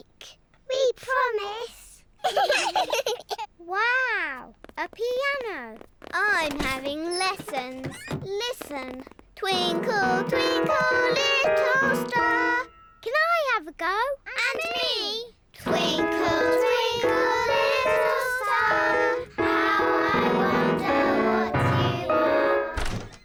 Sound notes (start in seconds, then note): 2.2 both giggle; 9.5 clunks discordantly